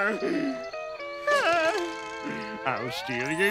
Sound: sighs

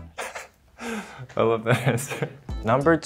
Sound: laughs

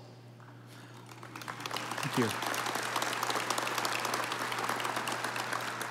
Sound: audience applauding

